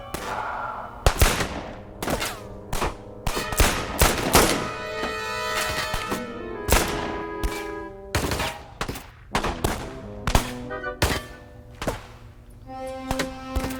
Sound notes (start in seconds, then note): 0.0 guns firing; 0.3 dramatic music; 3.0 guns firing; 6.4 dramatic music; 13.0 gun firing